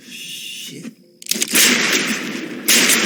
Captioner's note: gunshot